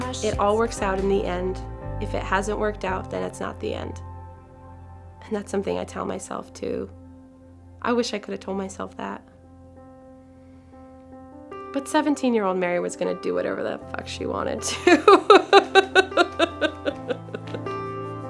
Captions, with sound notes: It all works out in the end. If it hasn't worked out, then it's not the end. And that's something I tell myself, too. I wish I could have told myself that. But 17-year-old Mary was going to do whatever the f*ck she wanted to. (laughs)